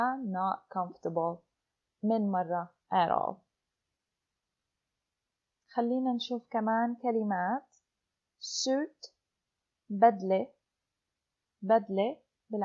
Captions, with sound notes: (in Arabic) let's look at some more words; suit